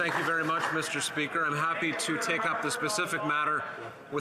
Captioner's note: some Applause